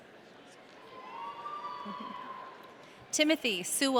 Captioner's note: audience cheering